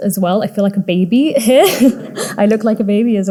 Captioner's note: audience laughing